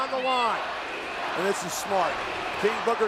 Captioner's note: crowd chanting "Batista"